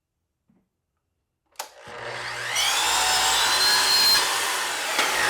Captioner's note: saw clicking and whirring